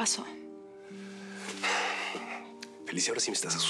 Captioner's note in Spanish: exhala